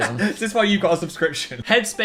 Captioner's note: laughs